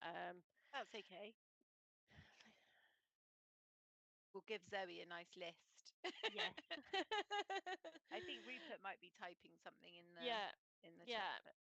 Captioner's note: laughter